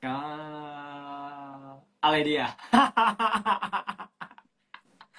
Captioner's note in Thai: เสียงหัวเราะ